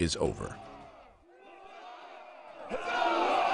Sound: soldiers cheering

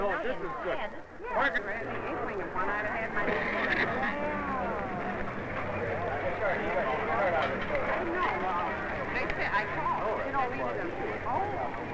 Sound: chattering and murmuring

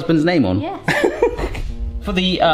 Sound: chuckles

